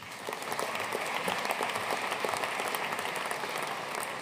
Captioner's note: audience applauding